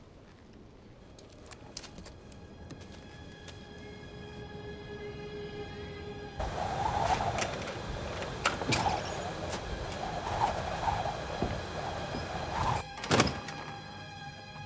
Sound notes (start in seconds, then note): 6.3 wind howling; 8.1 door creaks